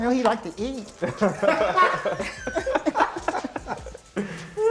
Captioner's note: laughter